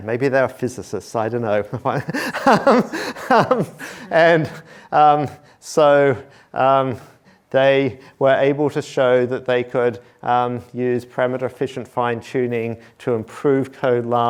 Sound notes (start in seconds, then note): 1.8 laughs